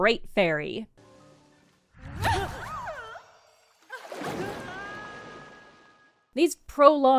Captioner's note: Great fairy gasps and squeals in delight